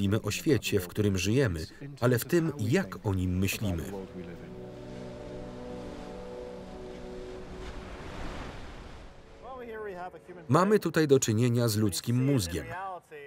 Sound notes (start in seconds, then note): 6.2 somber electronic music; 6.2 waves crash